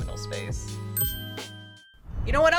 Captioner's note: bell dinging